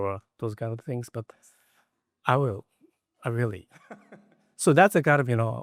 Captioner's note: laughs